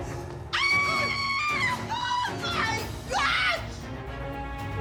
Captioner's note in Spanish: Gritos y exclamaciones